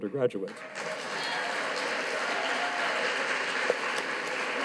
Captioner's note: audience applauding